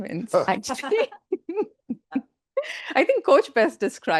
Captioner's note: panelists laughing